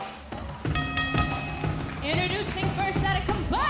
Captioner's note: bell ringing